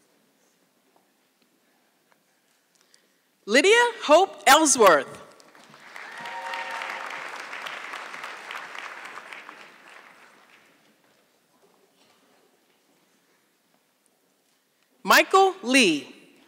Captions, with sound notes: Lydia Hope Ellsworth. (audience clapping) Michael Lee.